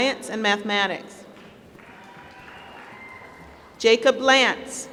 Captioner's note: applause